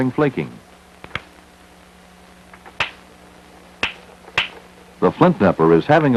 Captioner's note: sound of hammering rock